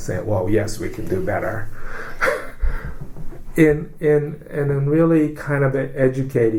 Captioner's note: laughs